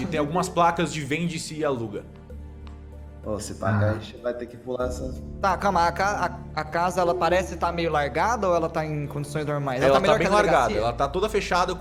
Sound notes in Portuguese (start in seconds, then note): none